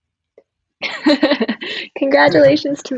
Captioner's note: laughing